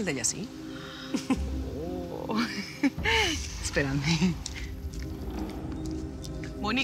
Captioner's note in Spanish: risas